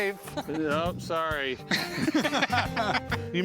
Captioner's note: laughter